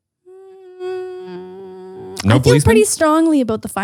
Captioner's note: humming